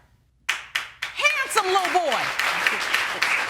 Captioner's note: audience clapping